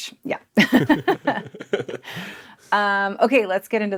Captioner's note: group laughing